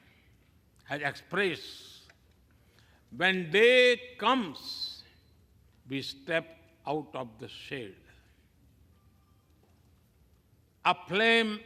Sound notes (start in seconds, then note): none